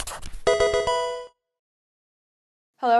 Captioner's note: pencil writing; Pokemon game sound